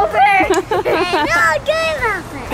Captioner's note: laughs